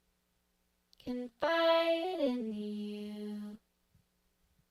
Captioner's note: voice synthesized with music